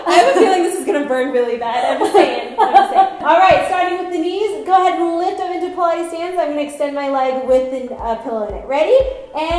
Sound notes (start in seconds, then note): 1.8 laughing